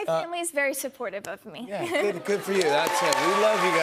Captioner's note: cheers and applause